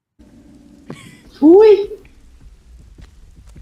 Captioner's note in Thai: เสียงหัวเราะเล็กน้อย